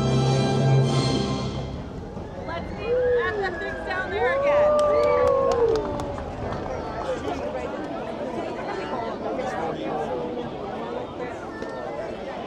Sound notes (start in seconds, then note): 4.7 audience cheering; 8.3 people chattering